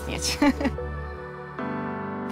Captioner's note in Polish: śmiech